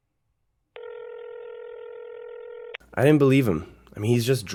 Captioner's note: phone ringing